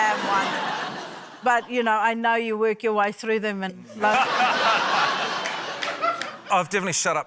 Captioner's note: laughter; laughter